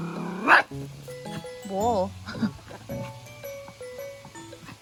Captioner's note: barking while stepping back, a smart coward